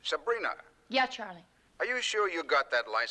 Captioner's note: none